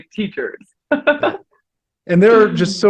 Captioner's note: podcaster laughs